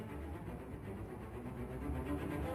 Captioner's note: none